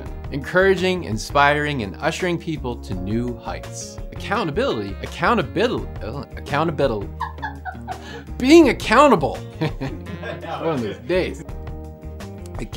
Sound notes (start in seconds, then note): 7.1 woman laughs; 9.6 laughs